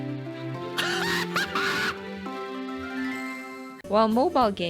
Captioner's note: laughing very hard